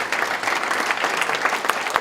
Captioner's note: applause